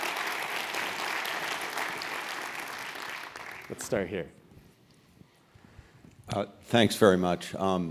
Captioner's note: applause